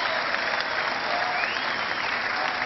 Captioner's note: cheering